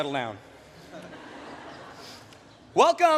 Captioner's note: laughter